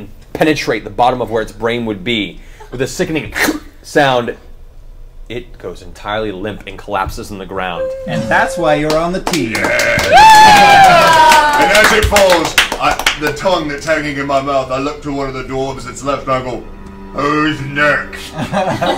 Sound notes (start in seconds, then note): 4.2 suction; 10.0 all cheer